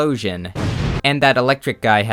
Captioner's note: boom